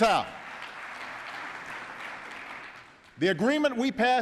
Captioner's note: applause